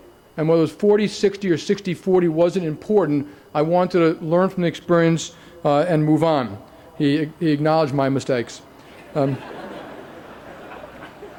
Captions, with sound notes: And whether it was 40/60 or 60/40 wasn't important. I wanted to learn from the experience and move on. He acknowledged my mistakes. [LAUGHTER]